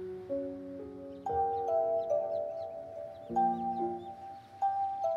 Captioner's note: Cell phone ringing